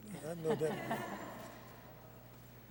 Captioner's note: laughter